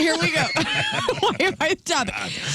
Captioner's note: laughing